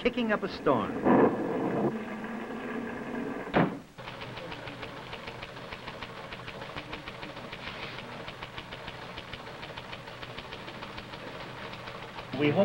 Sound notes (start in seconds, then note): 2.9 storm sounds; 3.5 door slams; 11.7 machine clicks